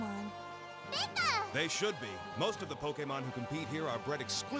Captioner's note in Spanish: emocionado